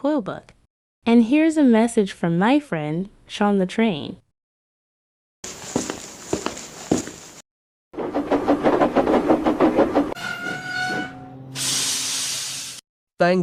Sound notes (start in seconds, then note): 8.0 chugging